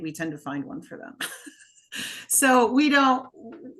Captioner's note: laughing